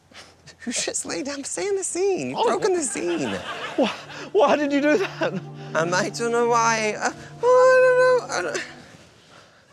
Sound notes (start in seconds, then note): 7.4 tearfully